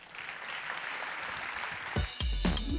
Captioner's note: applause